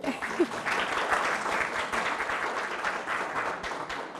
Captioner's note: audience applauding